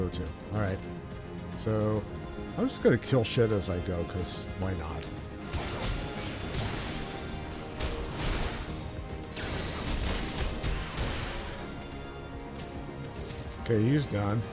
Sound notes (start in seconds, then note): 5.3 gunshots